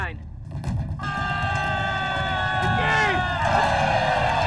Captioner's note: yelling